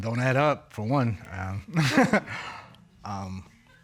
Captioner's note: chuckles